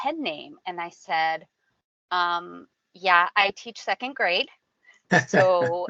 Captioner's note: laughing